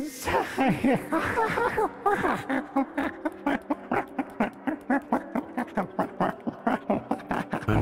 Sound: alien laughter

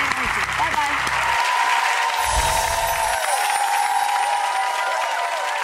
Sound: audience applause

